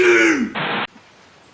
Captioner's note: static